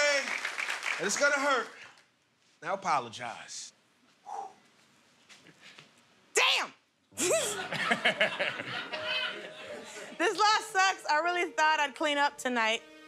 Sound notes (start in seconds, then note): 7.2 laughter